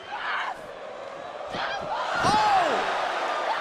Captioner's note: crowd cheering